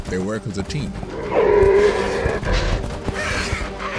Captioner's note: bellowing; hissing